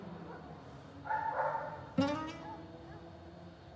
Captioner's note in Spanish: ladridos